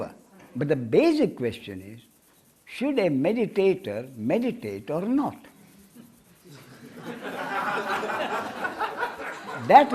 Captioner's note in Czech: smích